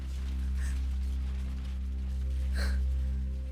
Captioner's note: crying